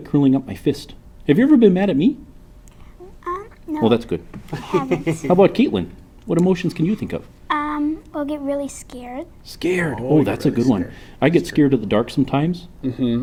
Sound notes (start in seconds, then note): 4.4 laughs